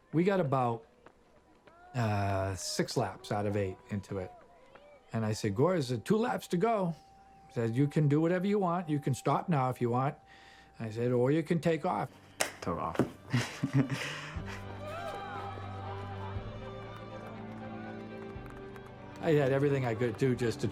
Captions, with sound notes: We got about, uh, six laps out of eight into it, and I said, Guor, it's two laps to go. I said, you can do whatever you want. You can stop now if you want. I said, or you can take off. Took off. [laughs] [cheering] I did everything I could do just to